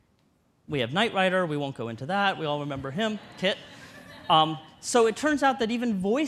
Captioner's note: audience laughter